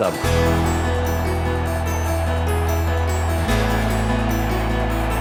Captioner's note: cheering